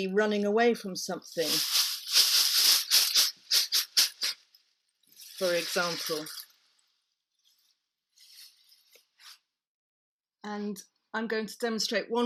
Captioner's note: faster rustling